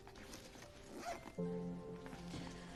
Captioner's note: bag zips